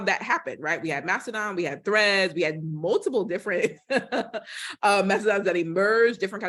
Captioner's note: laughter